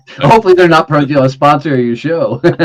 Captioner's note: laughing